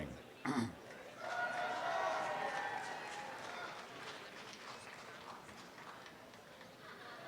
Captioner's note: applause